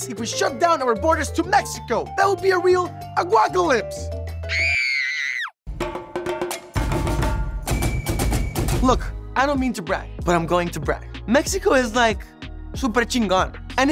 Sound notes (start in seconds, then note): 4.4 screaming; 5.8 upbeat music